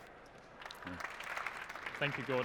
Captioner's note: applause